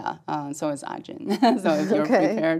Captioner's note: laugh